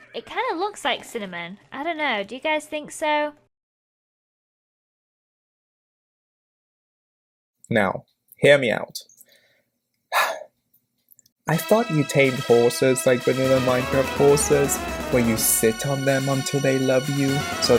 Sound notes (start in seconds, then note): 10.1 sigh